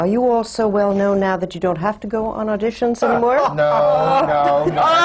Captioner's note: laughter and groans from the panel